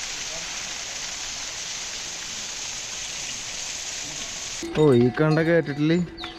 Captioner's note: waterfall splashing